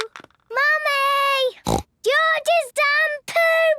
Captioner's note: snorts